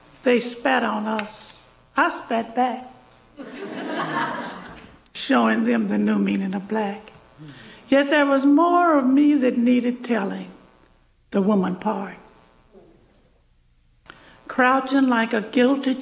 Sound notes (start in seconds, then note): 3.4 laughter